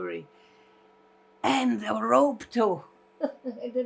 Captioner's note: laughing